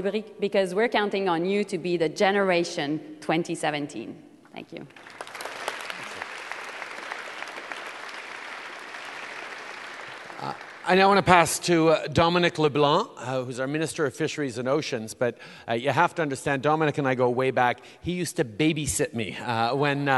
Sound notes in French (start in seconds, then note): 4.8 Applaudissements